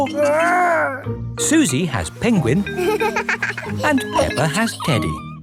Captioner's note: giggles